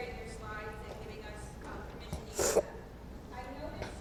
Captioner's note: drowned by speaker's sniffle